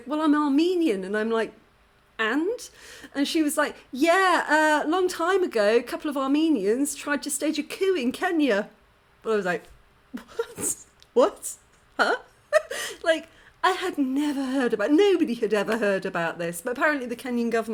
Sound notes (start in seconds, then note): 12.0 laughing